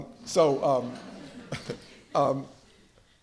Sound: laughter

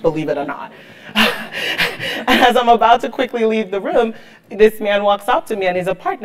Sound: laugh

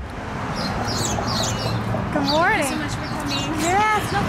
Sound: cars driving; birds chirping

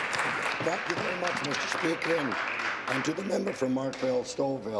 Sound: applause

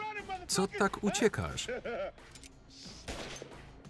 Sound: laughing; gun firing

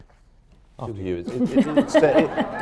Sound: laughter

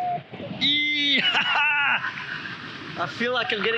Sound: shouts

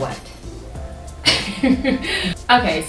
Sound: laughter

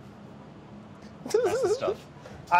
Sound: laughter

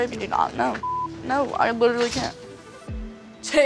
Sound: beep

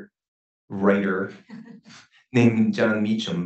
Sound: laughs

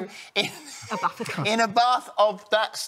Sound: laughter

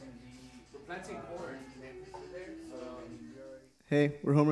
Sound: chattering

